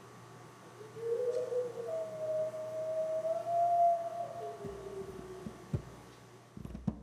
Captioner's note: very loud howl